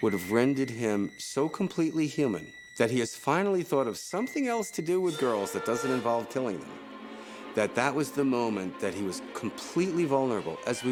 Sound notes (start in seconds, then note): none